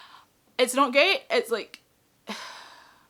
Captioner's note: sigh